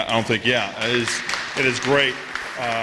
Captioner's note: applause